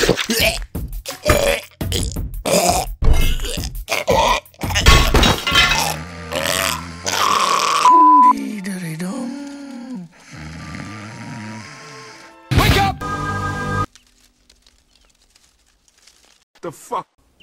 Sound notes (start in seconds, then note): 0.1 choking; 10.0 snoring; 13.0 echoing; 13.8 leaf Noises